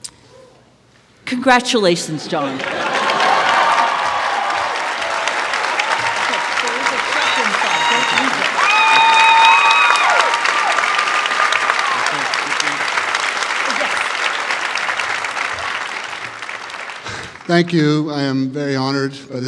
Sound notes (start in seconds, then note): 9.2 applause